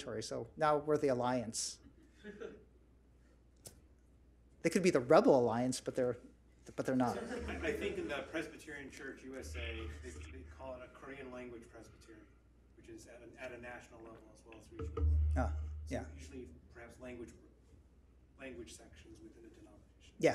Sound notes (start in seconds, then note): 2.3 audience chuckles; 7.1 audience chuckles